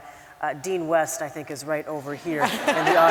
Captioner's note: laugther